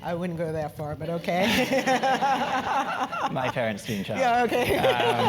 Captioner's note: laugh